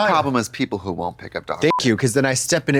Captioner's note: beep